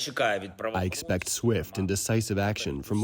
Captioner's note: through translator